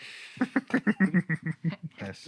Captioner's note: laughter